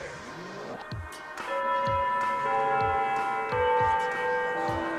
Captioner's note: chiming